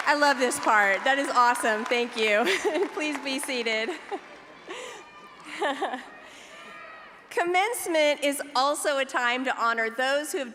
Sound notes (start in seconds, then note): 3.6 laughs